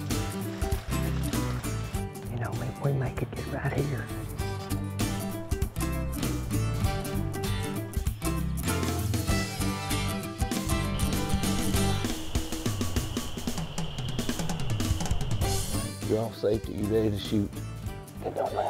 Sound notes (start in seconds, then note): 2.5 whispers